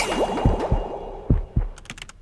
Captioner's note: blended sound effects; heartbeat; bubbling; blended sound effects; typing